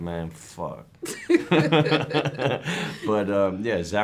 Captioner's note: both laugh